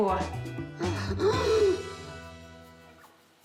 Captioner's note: laughs